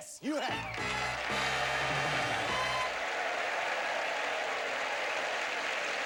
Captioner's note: audience applauding